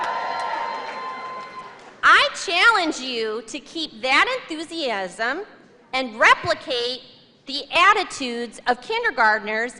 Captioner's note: cheers and applause